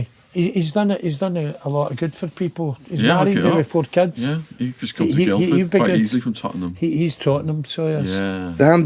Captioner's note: none